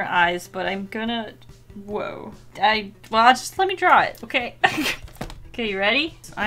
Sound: laughs

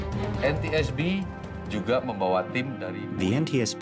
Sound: speaking indonesian

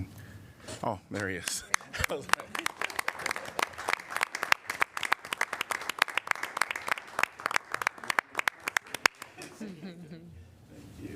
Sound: applause

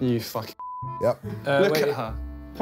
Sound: beeping

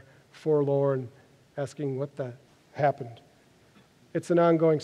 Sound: silent pause

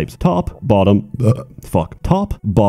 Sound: burps

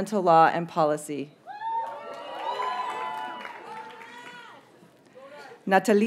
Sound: audience members cheer and applaud

